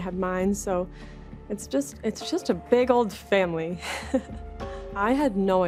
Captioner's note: chuckles